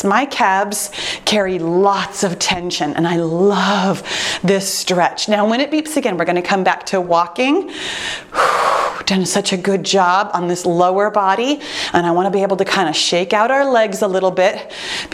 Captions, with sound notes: My calves carry lots of tension and I love this stretch. Now, when it beeps again we're going to come back to walking. (breathes out) Done such a good job on this lower body. And I want to be able to kind of shake out our legs a little bit